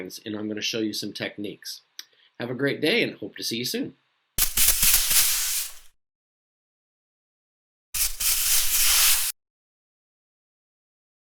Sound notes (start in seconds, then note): 4.5 graphics scratching